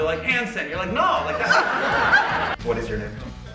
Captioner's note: audience laughter